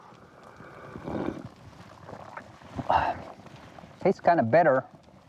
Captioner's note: slurps